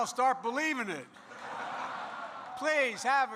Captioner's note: laughter